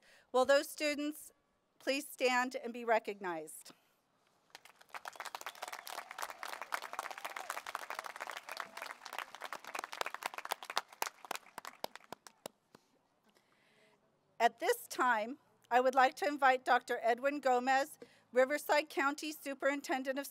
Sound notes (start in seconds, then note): 4.4 applause